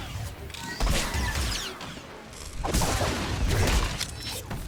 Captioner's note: gunshots